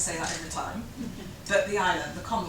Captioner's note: chuckles